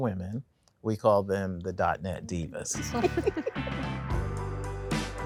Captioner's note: women laugh